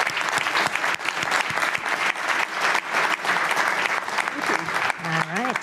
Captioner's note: applause